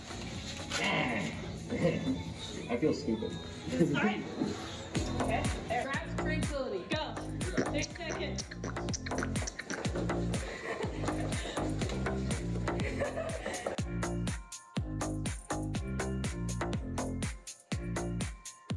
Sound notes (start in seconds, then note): 12.4 student laughing; 15.1 electronic dance music